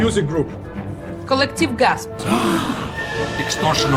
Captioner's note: collective gasp